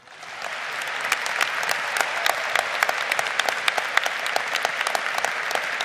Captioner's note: lead applaud